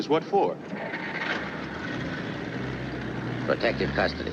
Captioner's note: car engine rumbling